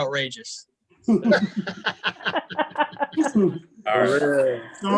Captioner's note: chuckling